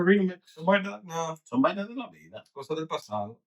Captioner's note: speaking In Foreign Language